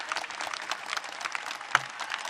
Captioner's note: applaue